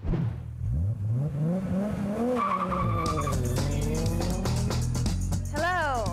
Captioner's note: engine revving, tires squealing